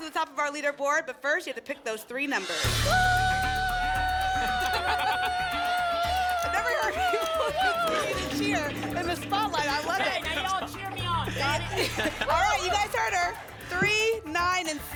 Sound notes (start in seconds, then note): 4.6 laugh